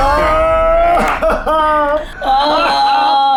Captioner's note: group laughs